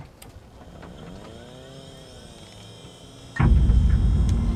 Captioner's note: crate whirring mechanically; suspenseful music